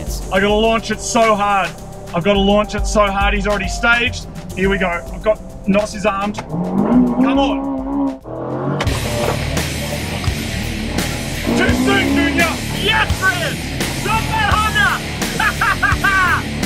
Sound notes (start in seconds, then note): 6.5 engine revs; 8.2 engine revs and accelerates; 15.2 cackles